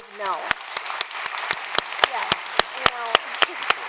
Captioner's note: applause